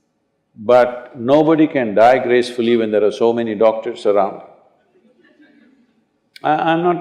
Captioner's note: laughter